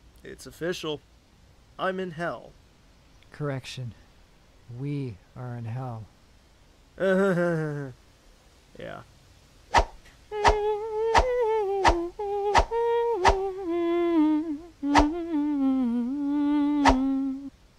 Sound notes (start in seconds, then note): 7.0 humorless laugh; 9.6 Sword shishes as Kid 13 continues to hum